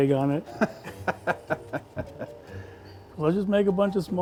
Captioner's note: laughs